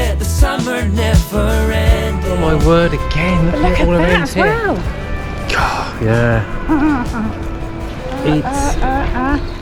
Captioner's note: laughs